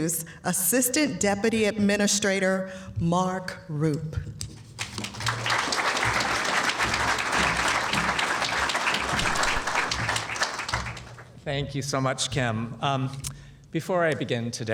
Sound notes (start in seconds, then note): 4.8 applause